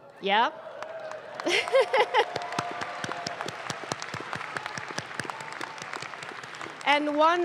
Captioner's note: audience claps; laughs